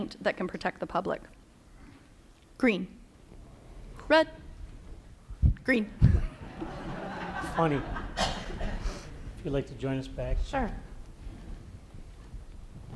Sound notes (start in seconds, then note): 6.2 laughter